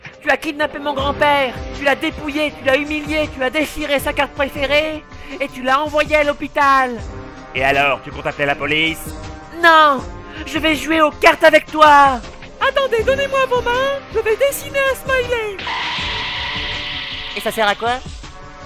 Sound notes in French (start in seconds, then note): 12.4 voix cruche; 15.5 bruitage révélation